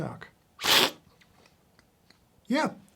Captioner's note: slurping